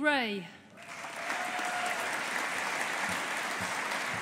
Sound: audience applauding

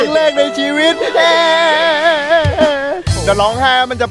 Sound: crying continues

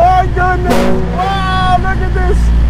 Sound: horn honks

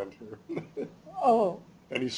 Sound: chuckles

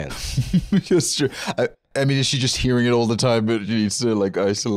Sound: laughing

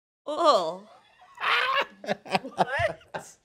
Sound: laughing

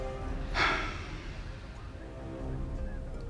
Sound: exhales

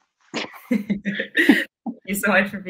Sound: both laughing

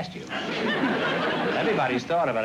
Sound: laughter

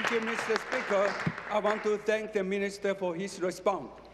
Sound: applause

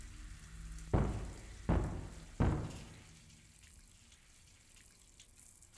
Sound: loud banging on door

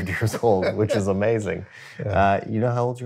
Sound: laughter

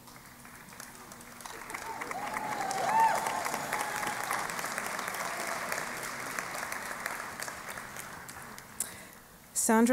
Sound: applause

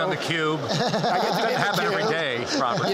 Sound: laughter

